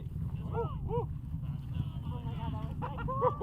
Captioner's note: cheering